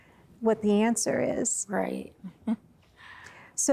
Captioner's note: giggles